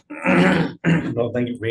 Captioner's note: clears throat